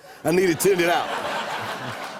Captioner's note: laughter